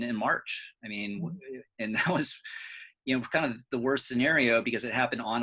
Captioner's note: chuckles